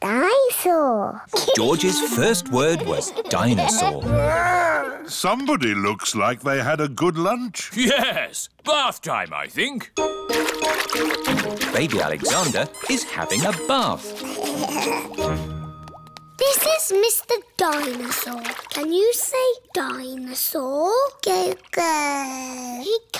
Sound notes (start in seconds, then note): 1.3 giggles; 10.2 splashing; 13.3 giggling; 22.0 babbles